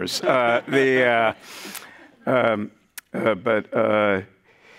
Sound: participants chuckling

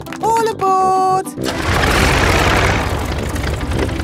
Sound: plane engine starts

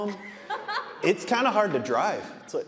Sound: audience laughing

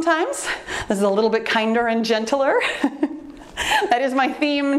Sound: laughs

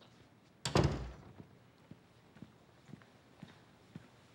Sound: door closes

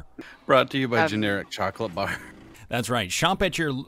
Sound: laughs

